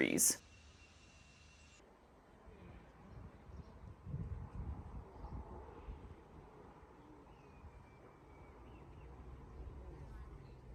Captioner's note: quiet nature sounds